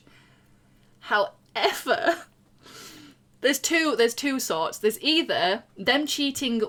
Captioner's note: laughing